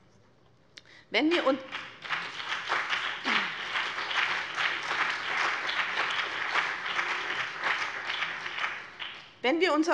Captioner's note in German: Beifall BÜNDNIS 90/DIE GRÜNEN und CDU